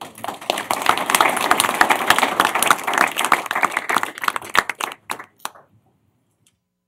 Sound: applause

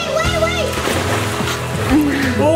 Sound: water splashing

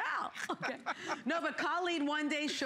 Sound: laughter

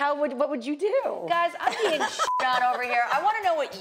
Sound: beep

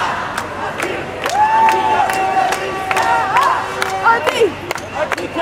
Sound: crowd chanting, and clapping; the sound of a hunting bugle

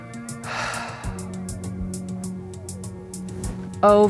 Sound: deep breathing

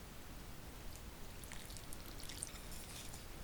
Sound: pouring

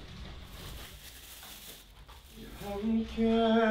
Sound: rummaging

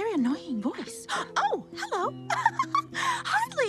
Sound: giggling; gasps

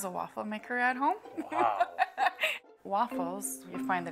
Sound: laughing

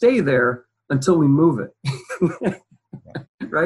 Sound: laughs

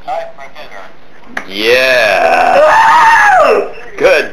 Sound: voiceover

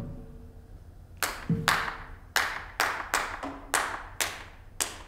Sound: rhythmic clapping

